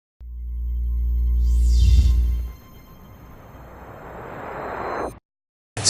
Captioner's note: sophisticated electronic ringing